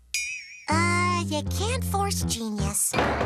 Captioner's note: door opens